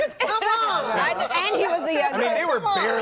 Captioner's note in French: laughter